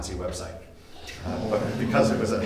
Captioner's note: audience laughing